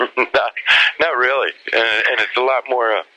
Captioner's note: laughs